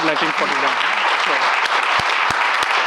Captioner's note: claps